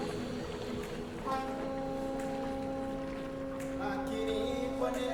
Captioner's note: ship horn blowing; singing continues